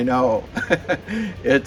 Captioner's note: chuckling